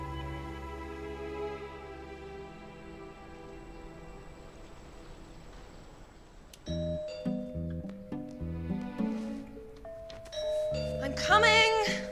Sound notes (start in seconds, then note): 6.7 doorbell rings; 10.0 ringing continues